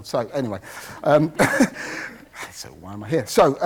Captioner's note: laughs